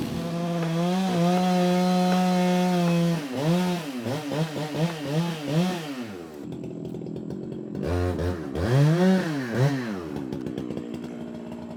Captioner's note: truck humming; chainsaw buzzing